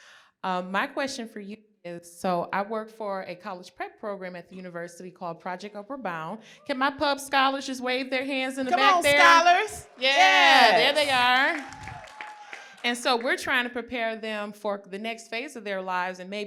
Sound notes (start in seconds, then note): 10.5 applause